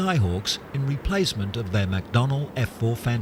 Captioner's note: plane taking off